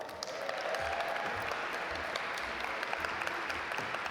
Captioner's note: audience applaud